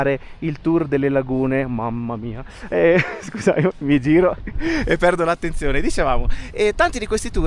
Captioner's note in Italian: risate